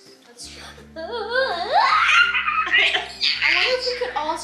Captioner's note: squeals